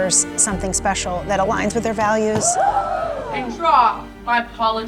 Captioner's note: characters gasping